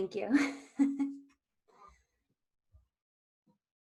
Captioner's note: chuckling